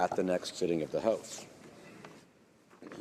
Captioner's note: speaking French